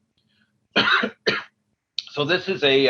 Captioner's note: coughs